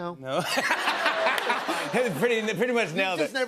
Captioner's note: laughter